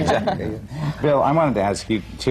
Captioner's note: laughter